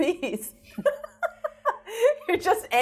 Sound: laughs

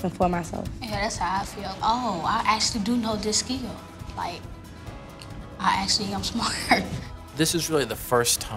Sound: laughs

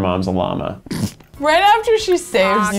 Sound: snorts

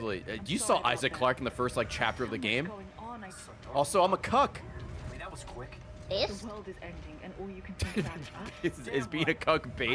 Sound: laughs

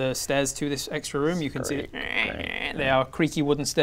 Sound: crkkk crkk

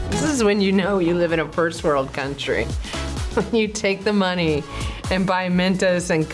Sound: chuckles

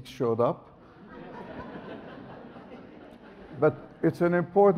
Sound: audience laughs

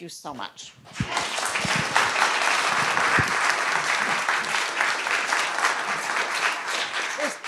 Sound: audience applauds

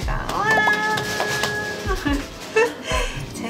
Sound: applause

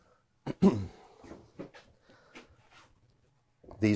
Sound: coughs

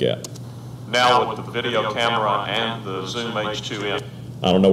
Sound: echo effect

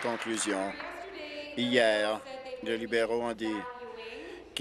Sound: applause

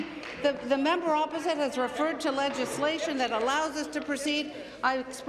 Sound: applause

